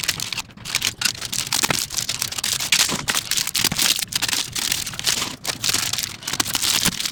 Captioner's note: plastic crinkling